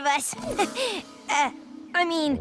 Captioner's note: chuckles